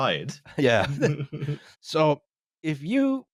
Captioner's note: chuckles